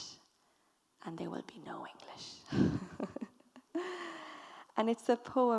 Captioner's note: chuckles